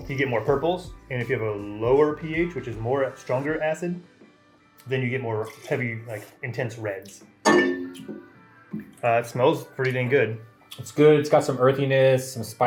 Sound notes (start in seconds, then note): 7.4 glass thuds